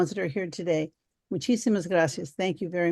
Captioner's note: speaking foreign language